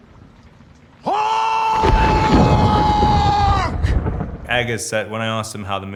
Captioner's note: thunder rumbling